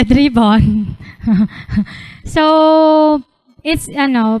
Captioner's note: laughter